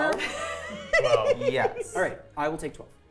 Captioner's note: laughing